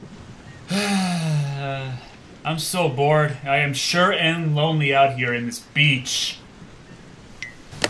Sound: sighs

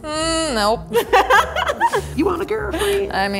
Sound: laughing

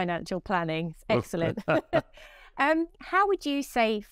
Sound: both laughing

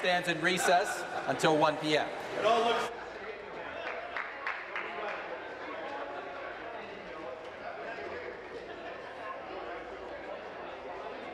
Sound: applause

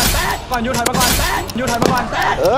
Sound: gunshot firing

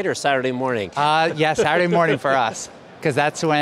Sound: laughs

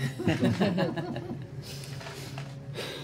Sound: chuckles

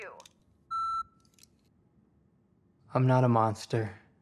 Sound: beeping

